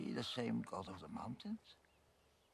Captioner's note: chuckles